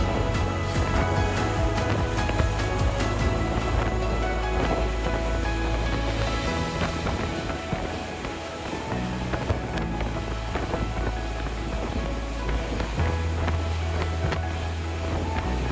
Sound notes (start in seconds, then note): 0.0 footsteps; 0.0 wind blowing